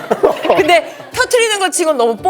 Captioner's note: haha